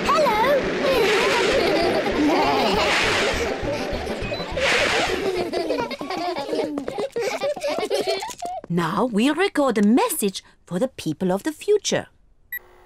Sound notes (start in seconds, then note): 0.8 all laugh